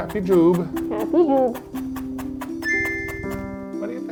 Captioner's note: Joobie purring